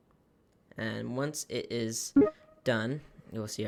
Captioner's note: beeps